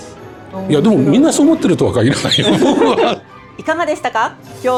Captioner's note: laughs